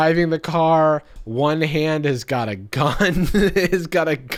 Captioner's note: laughs